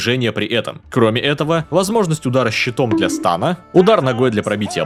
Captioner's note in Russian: боньк